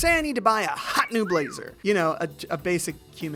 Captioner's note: man whistling